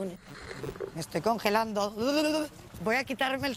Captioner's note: shivers